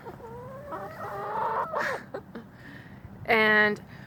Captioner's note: chickens chattering and clucking